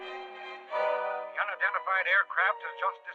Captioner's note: man on radio